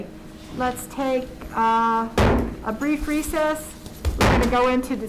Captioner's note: gavel bangs